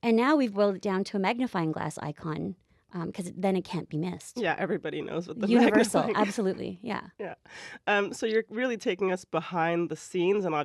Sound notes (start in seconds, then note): 4.4 laugh